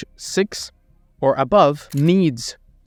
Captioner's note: camera clicking